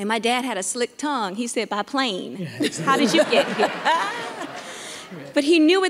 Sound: audience laughing

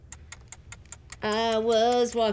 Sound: clock ticking

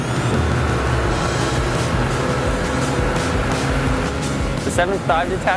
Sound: motor roaring

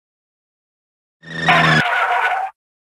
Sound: UFO sound

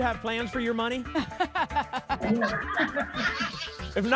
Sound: laughter

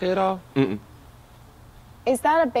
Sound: voiceover

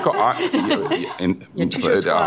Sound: laughter

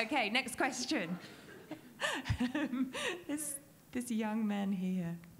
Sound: laughs

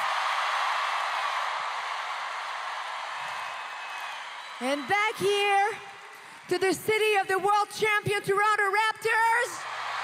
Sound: cheers and Applause

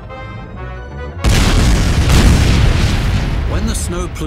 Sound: ka boom!

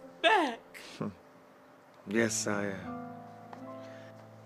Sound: chuckles

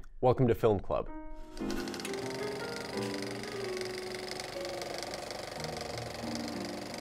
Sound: classical music; projector whir

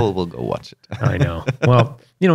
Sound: laughter

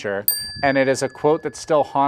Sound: bell dings

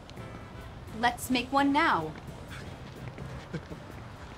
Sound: chuckles

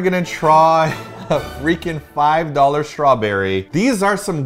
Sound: laughs

